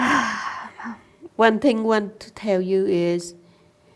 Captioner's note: laughs; sigh